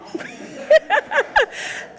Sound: all laugh

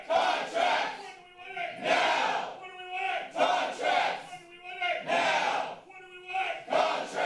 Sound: protester shouting

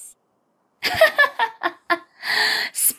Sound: Revy laughs

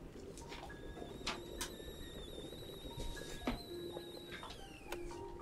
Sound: tea kettle whistling

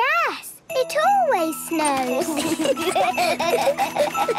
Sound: laughter

